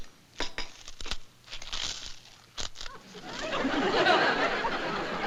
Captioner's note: crunching